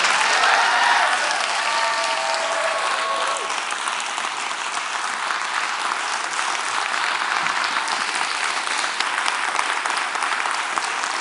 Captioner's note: Applause